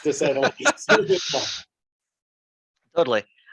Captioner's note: laughing